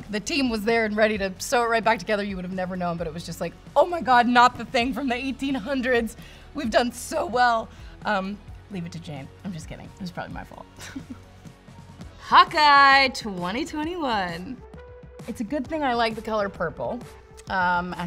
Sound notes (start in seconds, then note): 10.8 giggles; 13.3 upbeat background music